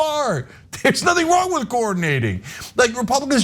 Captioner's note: laugh